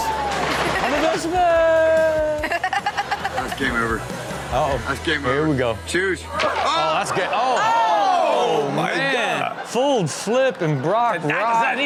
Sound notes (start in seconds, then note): 7.4 everyone exclaims